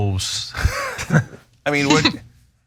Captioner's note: laugh